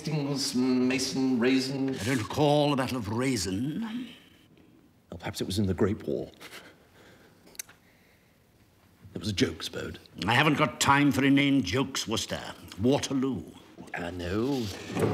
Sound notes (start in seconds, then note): 6.4 chuckling